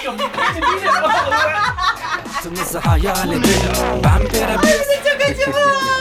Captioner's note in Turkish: Gülüyor